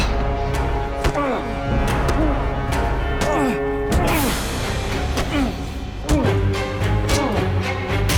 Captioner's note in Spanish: Golpes